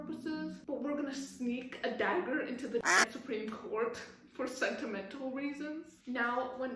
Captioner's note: quack